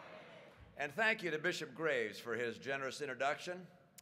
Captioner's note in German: Publikumslärm